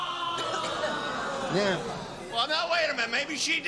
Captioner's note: groaning